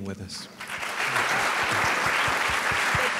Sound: applause

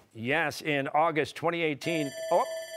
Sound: bell ringing

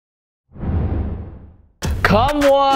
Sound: low whoosh

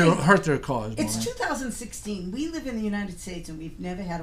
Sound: voiceover

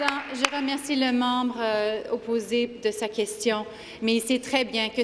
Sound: speaking French

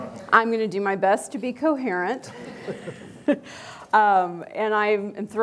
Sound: laughs

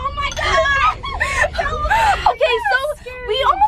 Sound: girls laughing

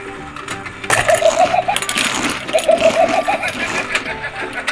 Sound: shark laughs

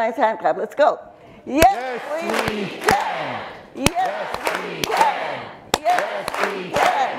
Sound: everyone clapping and chanting "yes we can" over and over

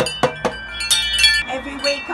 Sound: chime

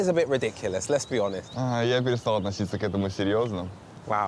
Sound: speaking in foreign language

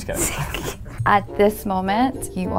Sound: laughs

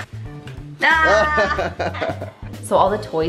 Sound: laughs

